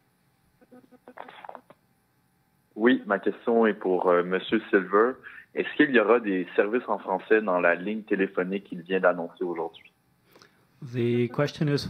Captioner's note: speaking French